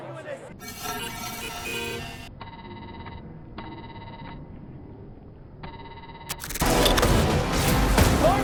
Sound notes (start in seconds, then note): 0.6 electronic beeps; 5.4 guns fire and bombs explode